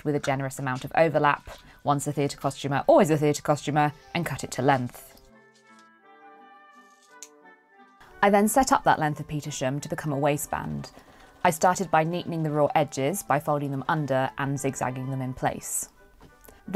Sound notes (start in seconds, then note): 6.8 snips